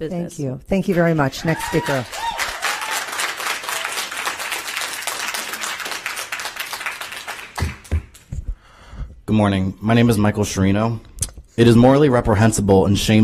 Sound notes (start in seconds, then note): 7.0 applause